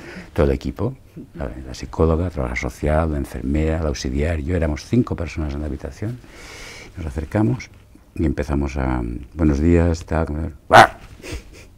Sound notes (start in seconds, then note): 10.2 he grunts